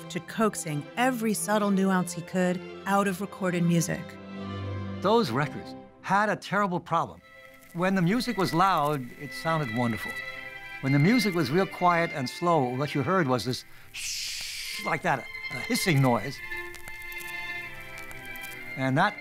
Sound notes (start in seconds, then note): 13.3 imitating hissing